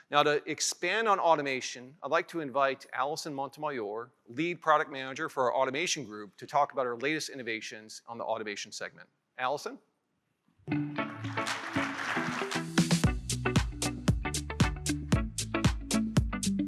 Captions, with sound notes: Now to expand on automation, I'd like to invite Alison Montemayor, lead product manager for our automation group to talk about our latest innovations on the automation segment. Alison? (upbeat music) (audience applauding) (upbeat music continues)